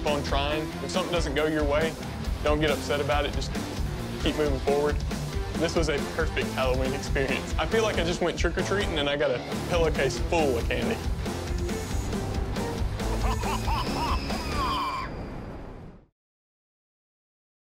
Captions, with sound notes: If something doesn't go your way, don't get upset about it. Just keep moving forward. This was a perfect Halloween experience. I feel like I just went trick-or-treating, and I got a pillowcase full of candy. [theme music] [spooky laughter, scream]